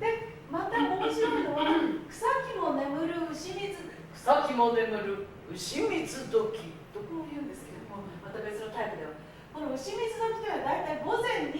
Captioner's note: speaking Japanes